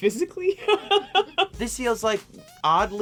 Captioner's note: laughing